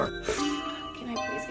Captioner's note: sighs